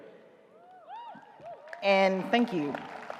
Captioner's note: audience cheers